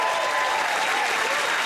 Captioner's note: cheers and applause